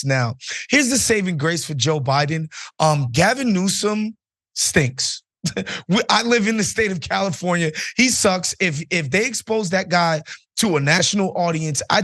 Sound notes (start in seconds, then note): 5.4 laugh